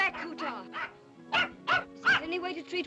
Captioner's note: dog barks